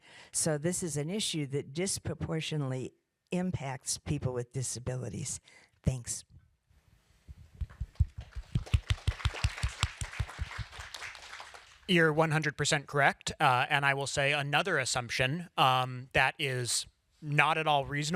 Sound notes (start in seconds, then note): 7.6 applause